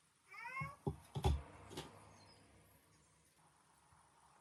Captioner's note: cat’s calling